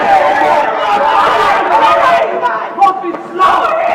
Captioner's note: crowd jeering